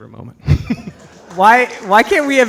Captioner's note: audience applauds